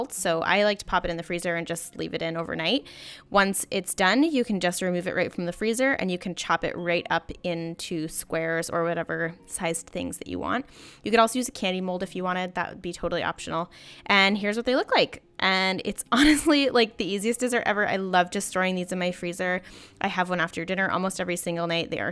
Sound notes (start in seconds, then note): 16.2 chuckles